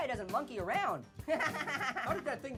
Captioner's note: Annoying Orange laughs